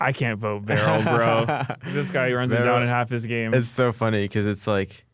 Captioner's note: laughs